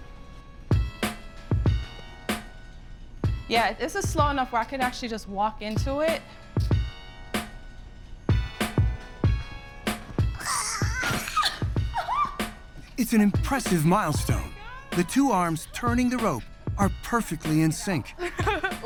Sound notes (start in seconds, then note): 10.4 excited squeal; 18.6 laughs